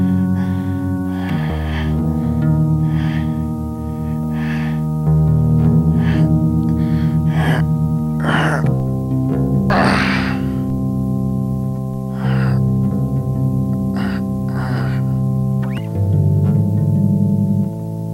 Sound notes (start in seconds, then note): 9.7 grunts